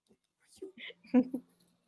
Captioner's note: laughing